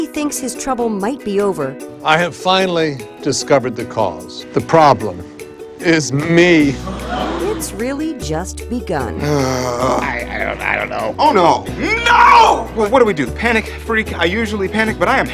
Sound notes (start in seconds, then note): 6.8 people gasps; 9.1 sighs